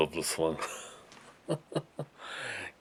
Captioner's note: chuckles